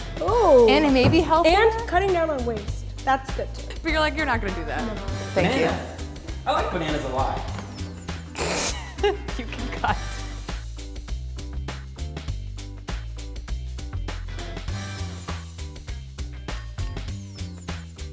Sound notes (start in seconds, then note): 8.6 laughing; 11.1 upbeat music